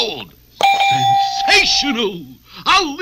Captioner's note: idea accepted Bell Dings